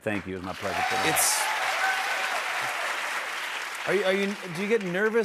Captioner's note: cheers and applause